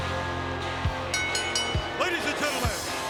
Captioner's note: bell dings